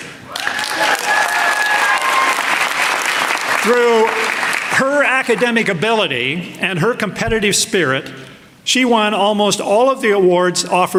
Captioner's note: applause